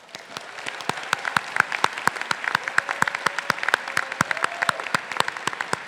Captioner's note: faculty and graduates applauding